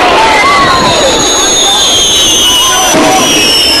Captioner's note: firework whistling